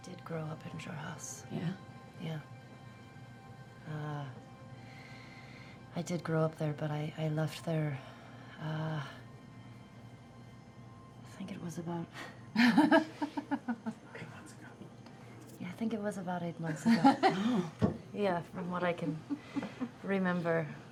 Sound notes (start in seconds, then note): 13.1 whispered